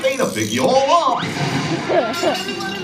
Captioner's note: Goofy whooshes and clatters; person laughing